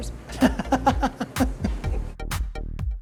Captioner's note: laughing